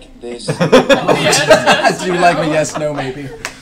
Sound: laughter

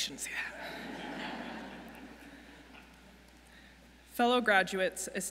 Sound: audience laughs

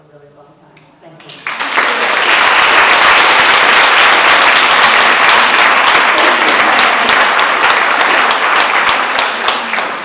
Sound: applause

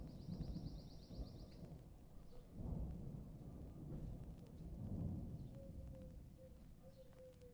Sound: bird chirping; thunder grumbling

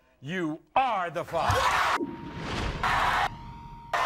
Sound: beeping

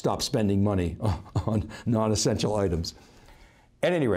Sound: laughing

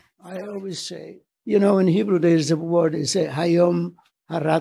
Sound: speaks Hebrew

